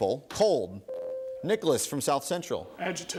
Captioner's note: ding